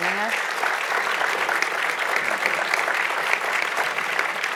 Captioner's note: audience applauds